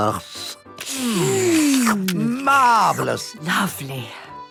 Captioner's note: slurping